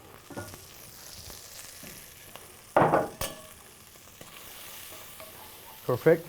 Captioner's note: bacon sizzling